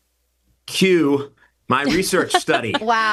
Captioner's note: host laughs